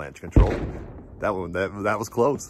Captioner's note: avalanche breaking